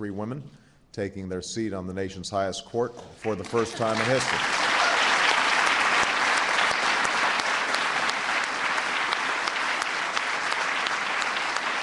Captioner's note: applause